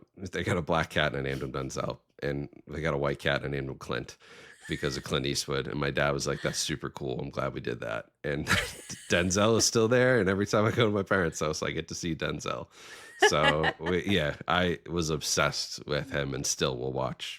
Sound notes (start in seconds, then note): 8.4 both chuckling; 13.0 laughing